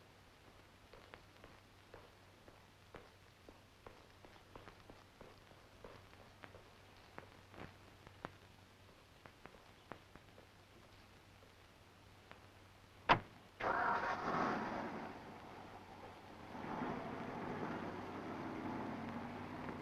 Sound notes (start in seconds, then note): 13.6 engine starts; 16.8 engine rumbling